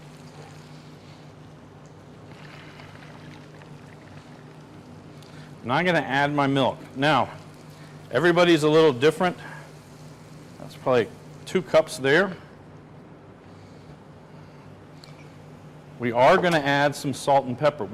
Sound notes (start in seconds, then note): 2.3 liquid sloshing